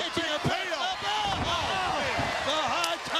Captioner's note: all three commentators exclaim